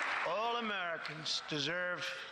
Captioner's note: applause